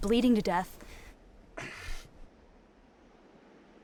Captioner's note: sighs